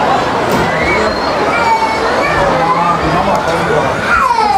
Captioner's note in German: Kind weint